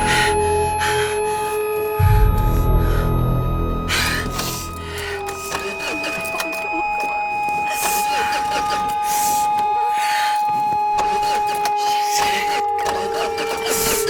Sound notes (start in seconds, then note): 0.2 breathing heavily; 5.7 car failing to start; 9.6 ominous music